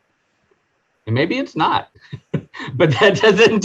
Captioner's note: laughing